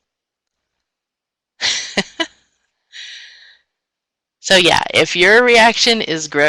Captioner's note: laughs